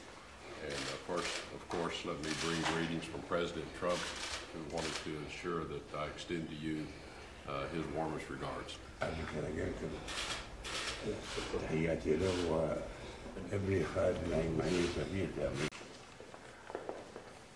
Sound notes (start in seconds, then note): 13.2 in Arabic